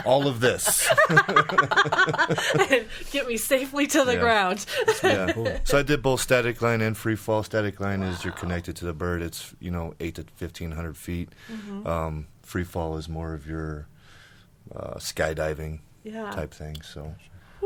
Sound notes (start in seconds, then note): 0.0 all laughing